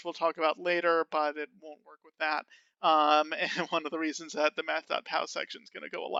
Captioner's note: laughing